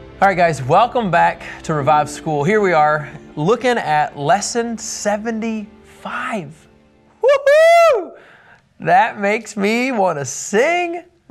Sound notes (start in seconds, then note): 7.3 cheering